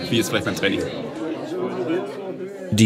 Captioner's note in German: Stimmengewirr